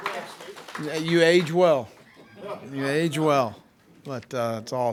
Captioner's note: group applauds